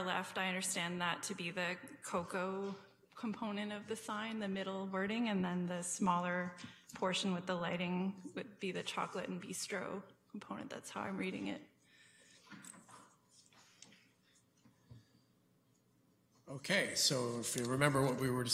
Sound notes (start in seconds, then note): none